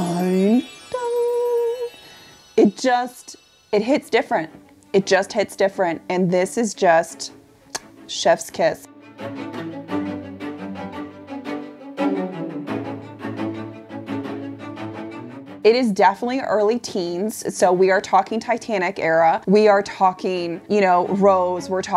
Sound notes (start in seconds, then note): 7.7 lips smack; 9.1 orchestral music